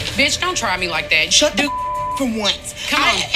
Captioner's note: beep